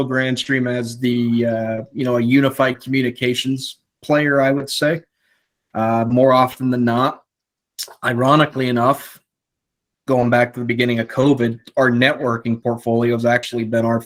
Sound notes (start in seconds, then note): none